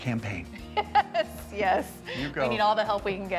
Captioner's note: laughing